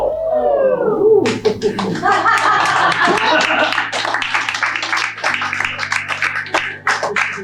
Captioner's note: audience oohs and claps